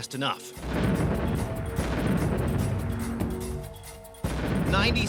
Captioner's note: explosion